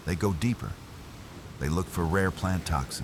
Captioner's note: wind Blowing